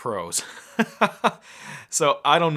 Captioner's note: laughing